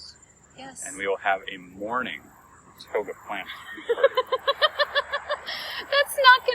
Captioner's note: laughing